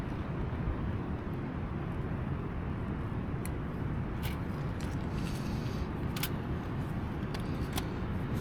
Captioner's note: wind blowing